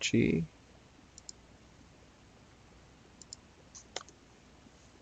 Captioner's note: mouse clicking